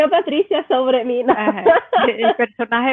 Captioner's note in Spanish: ríe